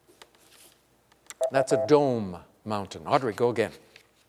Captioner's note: beep